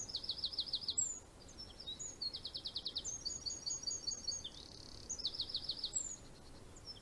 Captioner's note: bird singing